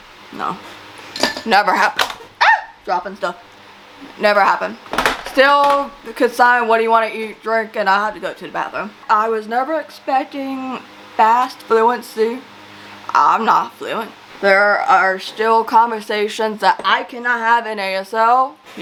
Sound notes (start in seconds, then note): 1.1 clattering noise; 2.4 yelps; 4.9 clattering noises